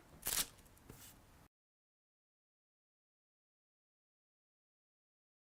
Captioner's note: audio out